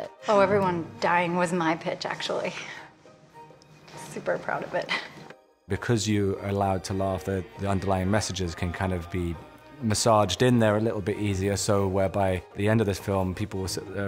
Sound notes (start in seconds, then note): 5.0 chuckles